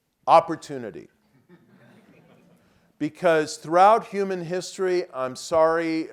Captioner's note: laugh